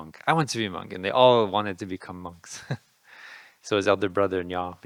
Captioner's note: laughing